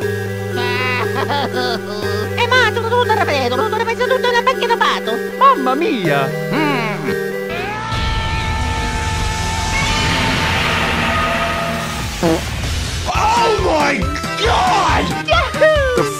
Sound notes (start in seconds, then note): 0.5 Luigi doll crying; 7.0 grunt; 12.1 fart